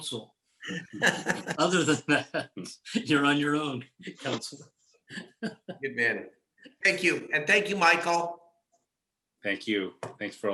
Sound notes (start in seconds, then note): 0.6 laughing; 5.1 laughing